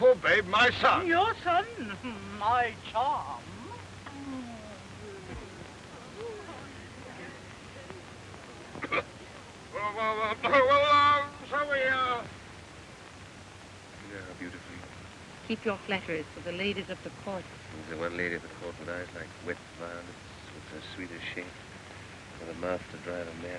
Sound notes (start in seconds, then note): 3.7 cooing to baby; 8.8 clears throat